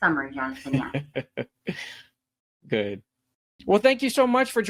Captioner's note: laughs